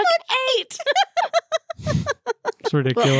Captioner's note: laughter